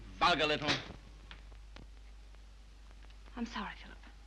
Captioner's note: slap